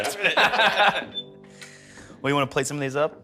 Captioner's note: laughs